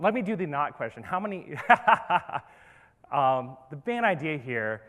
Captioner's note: laughs